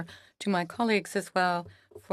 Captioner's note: speaking in French